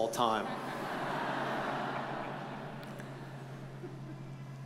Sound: audience chuckles

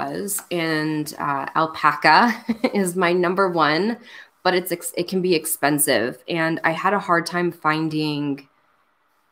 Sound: laughs

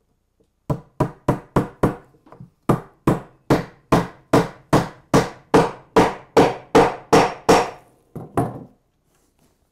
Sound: hammering

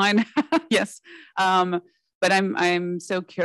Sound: chuckles

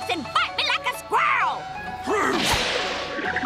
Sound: grunting

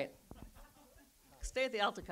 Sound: audience laughs

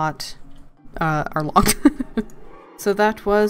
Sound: laughs

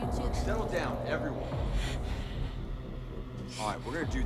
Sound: heavy breathing

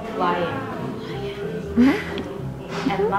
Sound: gasps

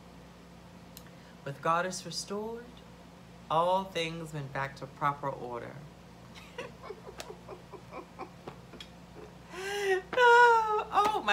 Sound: laughs

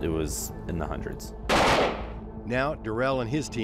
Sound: gunshots

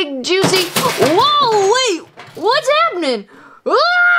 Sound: clanking

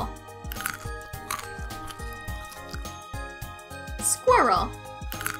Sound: squirrel crunching

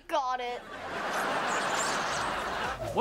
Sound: laughing

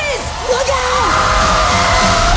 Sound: screaming

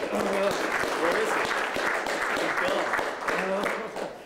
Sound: applause

